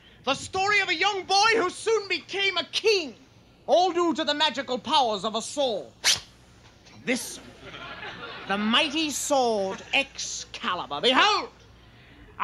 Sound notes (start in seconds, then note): 6.0 high-pitched zip; 7.3 audience laughing